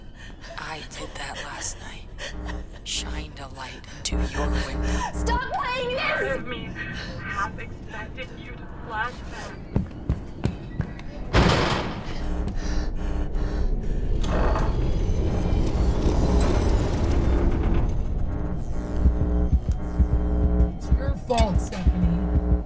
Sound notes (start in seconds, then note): 11.3 footsteps clattering; 12.4 lights buzzing